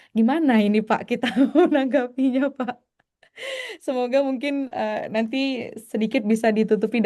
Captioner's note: tertawa